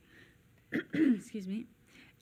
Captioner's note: clearing throat